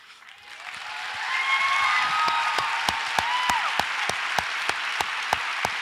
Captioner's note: audience applauds and cheers